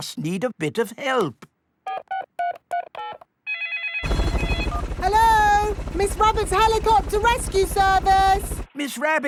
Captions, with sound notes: We just need a bit of help. (DIALING) -(PHONE RINGING) -Hello? Miss Rabbit's Helicopter Rescue Service!